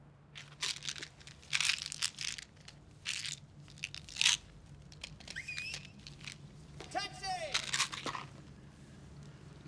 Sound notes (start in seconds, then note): 5.3 whistles